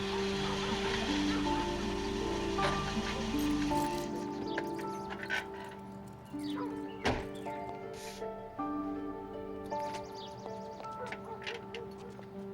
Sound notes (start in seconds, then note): 0.1 dog barking; 3.2 soft music